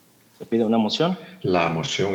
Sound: translator speaking in Spanish

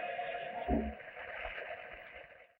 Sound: audience applauding

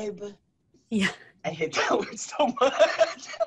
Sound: laughter

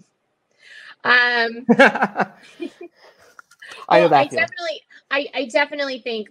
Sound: laughing

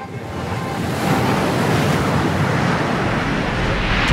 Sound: water splashing

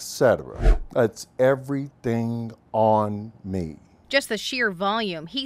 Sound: air whooshes

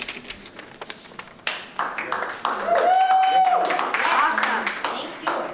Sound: audience applauding

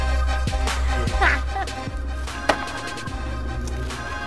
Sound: laughing

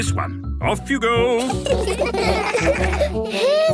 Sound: laughter

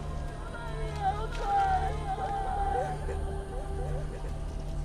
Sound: all shouting

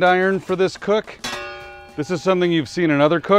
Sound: metal clanging

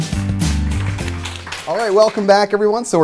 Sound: applause

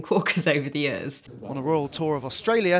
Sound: chuckles

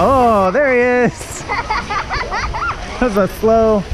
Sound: children laugh

